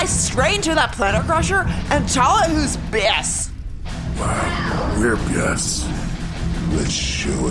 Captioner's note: heavily lilted